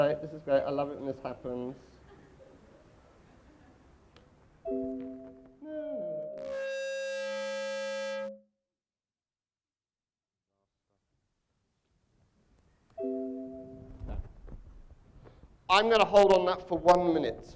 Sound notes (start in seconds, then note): 4.8 microphone feedback